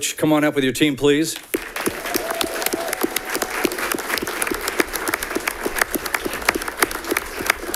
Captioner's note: audience clapping; audience cheering